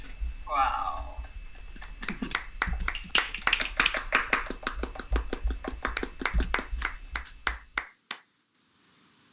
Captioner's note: applause